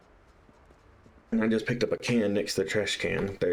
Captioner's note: speaking normally again